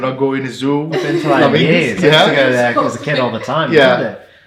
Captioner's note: irish laughing